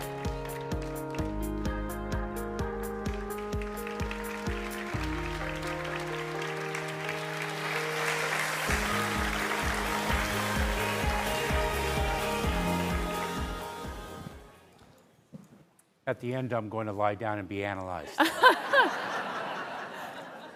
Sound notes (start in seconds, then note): 6.1 applause